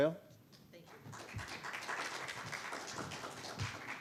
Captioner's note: audience applauding